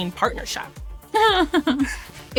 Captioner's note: laughs